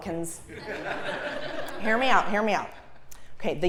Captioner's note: laugh